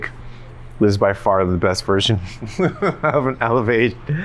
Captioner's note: laughs